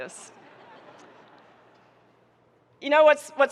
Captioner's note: audience laughing